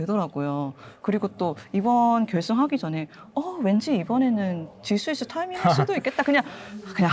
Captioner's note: laughs